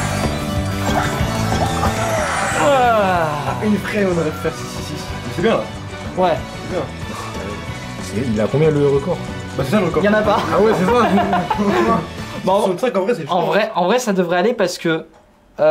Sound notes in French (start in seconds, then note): 10.3 Rires